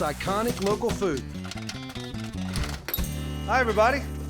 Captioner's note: popping